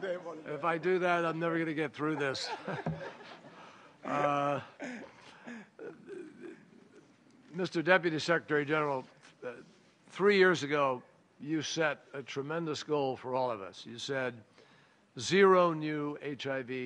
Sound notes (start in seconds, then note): 4.9 laughter